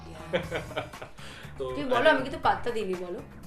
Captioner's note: laughing